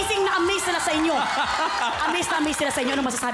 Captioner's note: robi laughing